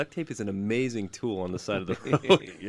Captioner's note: laughs